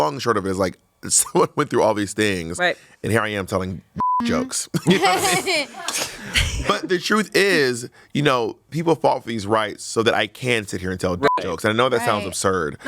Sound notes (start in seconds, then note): 4.0 beep; 4.8 everyone laughs; 11.2 beep